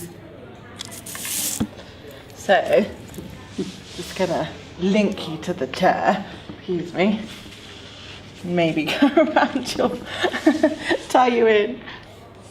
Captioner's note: laughs